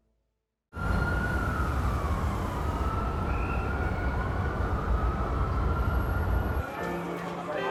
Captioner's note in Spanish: Sirenas